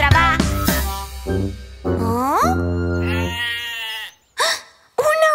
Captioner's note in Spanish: Balido